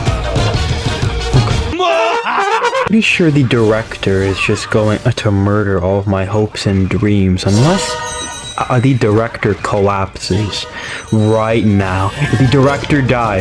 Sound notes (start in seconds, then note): 10.7 inhales Oxygen